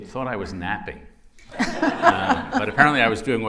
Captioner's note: laughter